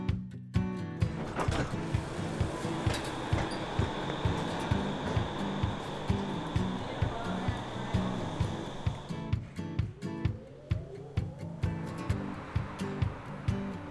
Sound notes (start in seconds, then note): 1.0 tram doors opening